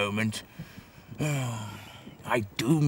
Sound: sighs

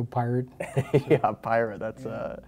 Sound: laughs

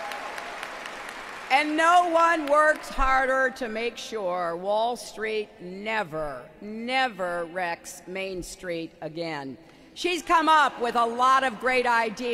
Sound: applause

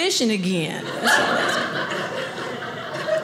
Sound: audience laughing

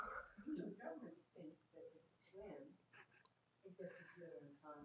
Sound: woman speaks faintly

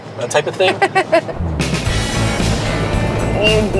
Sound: laughing

